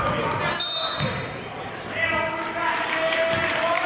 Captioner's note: whistling; applauding